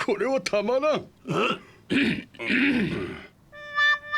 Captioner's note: clears throat